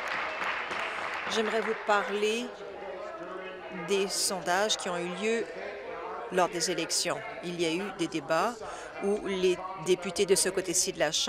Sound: applause

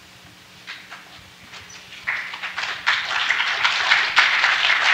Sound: applause

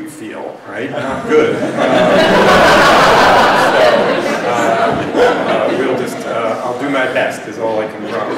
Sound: laughter

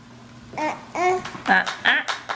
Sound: baby cooing

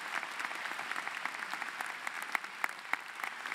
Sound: applause

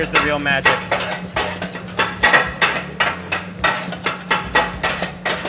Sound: paddles clanging

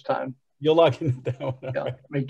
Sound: laughs

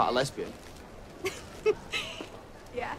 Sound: laughs

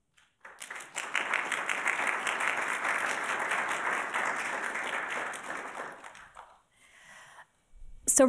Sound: applauding

